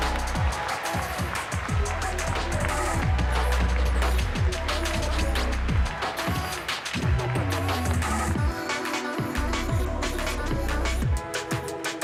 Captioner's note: cheering and Applause